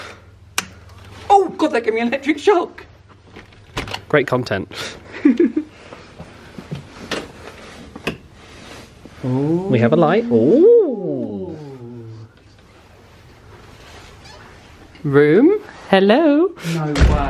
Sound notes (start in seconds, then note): 5.0 both laugh; 10.2 exclaims in delight